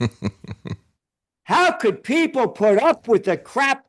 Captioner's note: laughing